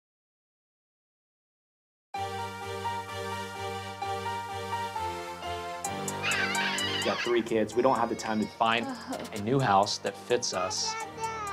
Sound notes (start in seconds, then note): 2.7 rousing electronic music; 6.2 crying